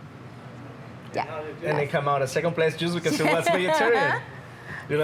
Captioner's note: laughs